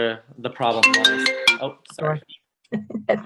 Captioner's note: phone chiming; laughs